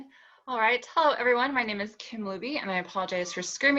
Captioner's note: kittens mewing